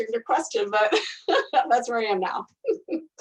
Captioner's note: laughing